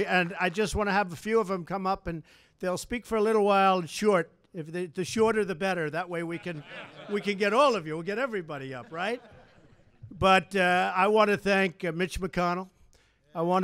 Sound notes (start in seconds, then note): 6.2 laughter